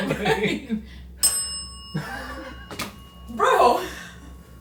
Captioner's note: bell dings